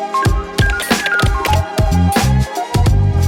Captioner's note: keystrokes tapping; upbeat music